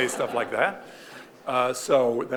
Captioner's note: audience laughing